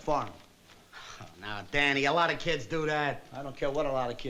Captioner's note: chuckles